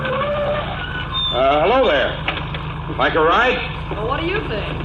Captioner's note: car engine slows to idle ... car brakes; calls out